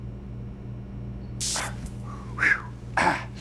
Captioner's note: electricity crackles; inhales, exhales sharply